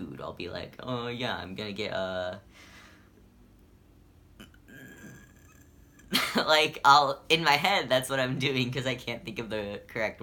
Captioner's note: indecisive noise